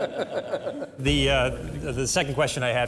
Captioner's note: laughter